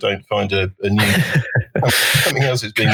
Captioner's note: both laughing